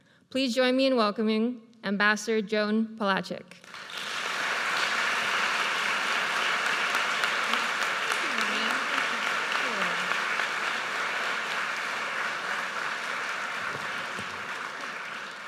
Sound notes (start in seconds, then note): 4.2 audience applauds